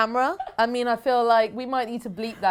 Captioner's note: laughs